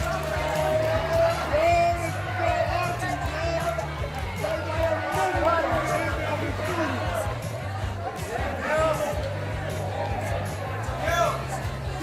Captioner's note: crowd cheering and starts chanting " !"